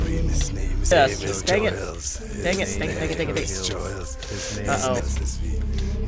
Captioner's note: chanting